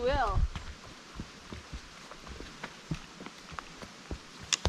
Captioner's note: footsteps